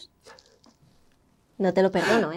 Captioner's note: laughs